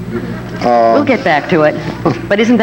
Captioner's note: audience laughing